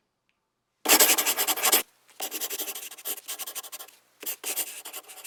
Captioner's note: pen scribbling